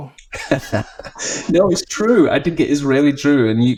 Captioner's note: laughs